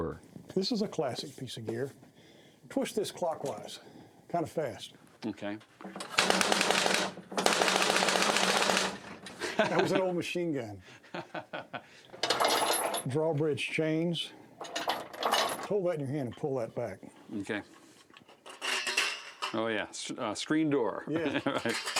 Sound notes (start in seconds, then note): 6.1 flapping; 9.3 laughing; 12.2 rattling; 17.8 metallic creaking